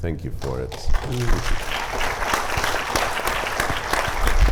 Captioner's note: audience applauding